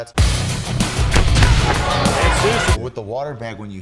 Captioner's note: intense upbeat rock music; punches thudding